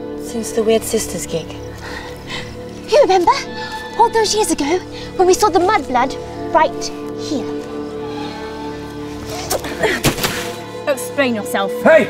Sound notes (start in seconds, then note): 9.5 Andromeda gasps